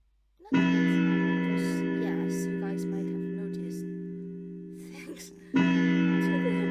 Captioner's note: clock chimes